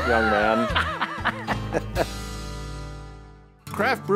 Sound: laughing

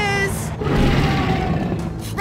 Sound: roaring

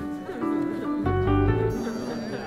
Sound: crowd chattering; ambient music

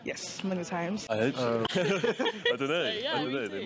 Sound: laughs

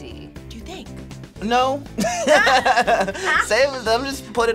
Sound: React laughs; laughs

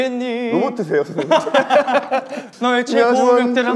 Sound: group laughter

